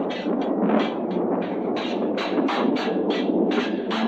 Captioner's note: swords clashing; thunder rumbling; dramatic orchestral music